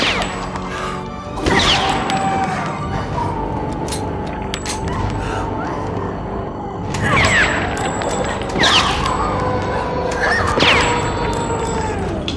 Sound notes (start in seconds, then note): 1.4 gunfire; 3.2 howling; 7.7 bones cracking